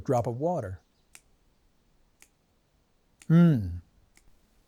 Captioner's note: Man in White snapping